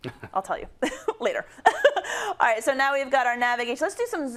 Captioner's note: laugh